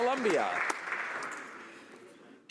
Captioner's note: some Applause